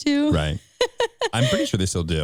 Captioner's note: laughing